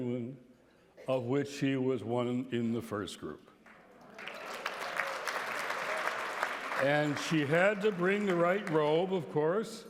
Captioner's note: applause